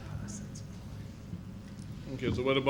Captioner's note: chattering quietly